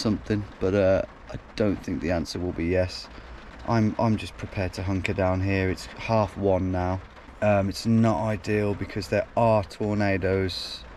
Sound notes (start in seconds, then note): none